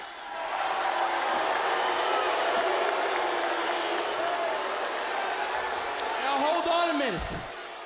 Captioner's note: crowd cheering